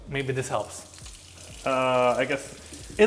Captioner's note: water trickles